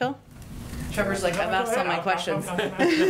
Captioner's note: laughs